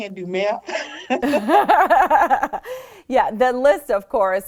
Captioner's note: laughs